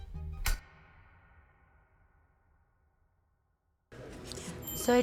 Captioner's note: gentle music continues; light switch flicking